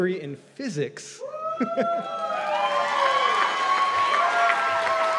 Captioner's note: cheers and applause